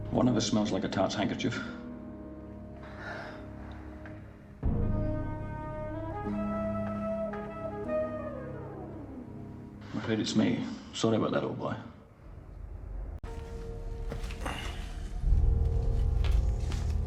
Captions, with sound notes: One of us smells like a tart's hankerchief. Clearly it's me. Sorry about that, old boy. [Footstep] Hmmph